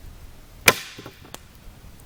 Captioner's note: snap